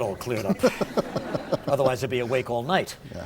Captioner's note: laughter